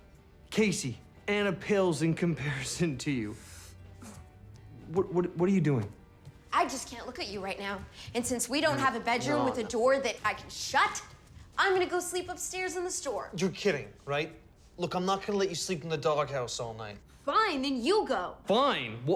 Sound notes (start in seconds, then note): 3.4 snickering